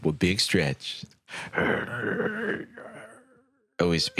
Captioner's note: quiet masculine straining